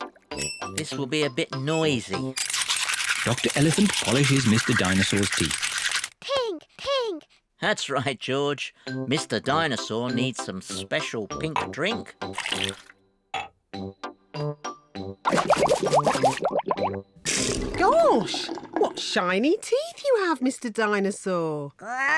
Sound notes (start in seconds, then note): 15.2 bubbles